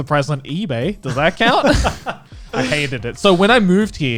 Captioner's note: guys laughing